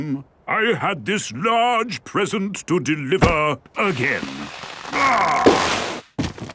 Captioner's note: groaning